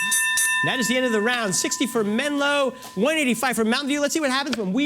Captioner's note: bell